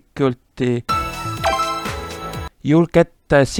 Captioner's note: the sound of the secret being activated